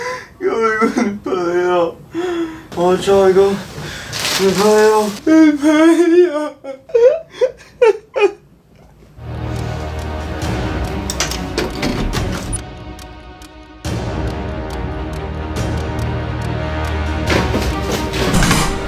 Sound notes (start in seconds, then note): 11.3 sound of opening the door; 12.4 sound of walking